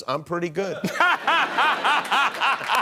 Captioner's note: laughing